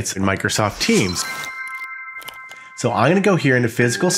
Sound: chimes

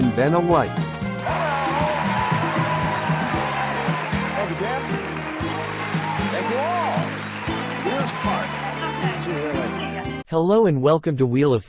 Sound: applause

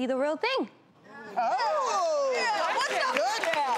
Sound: applause

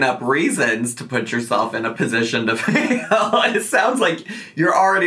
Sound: laughs

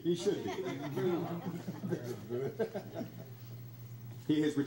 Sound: crowd laughs

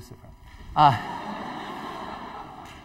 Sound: laughter

